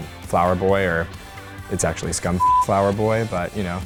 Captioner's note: beep